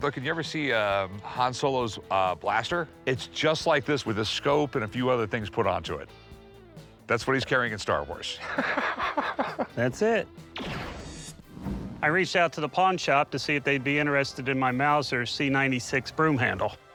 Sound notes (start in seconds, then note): 8.4 chuckles; 10.5 blaster fires